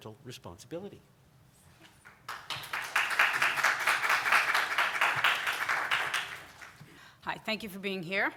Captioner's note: applause